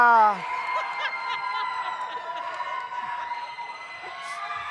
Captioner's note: audience cheers